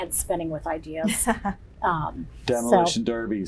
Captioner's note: laughter